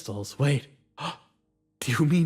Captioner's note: gasp